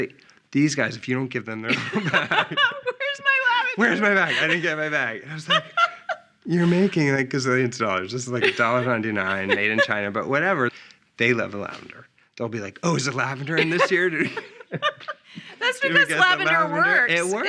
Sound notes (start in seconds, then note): 14.9 laughing